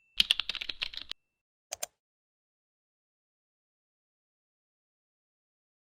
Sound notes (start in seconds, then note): 0.0 bell chimes; 0.2 keyboard clicking; 1.7 mouse clicking